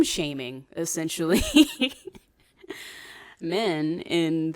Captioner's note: laughs